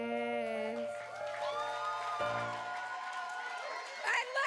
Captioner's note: applause